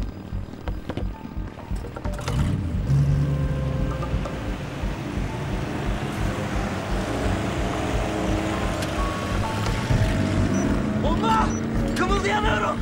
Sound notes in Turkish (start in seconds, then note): 1.6 Tekne motor sesi